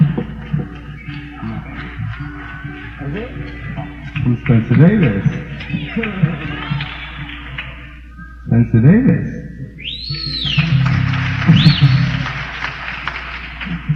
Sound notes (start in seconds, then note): 10.6 laughs